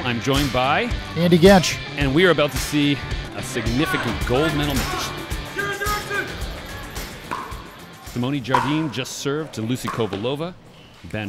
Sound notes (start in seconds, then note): 5.9 spectators shouting